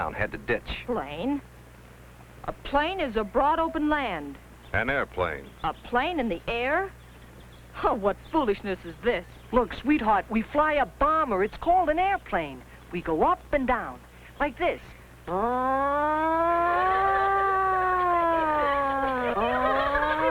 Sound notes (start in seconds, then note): 15.2 imitates plane roaring; 16.0 women laughing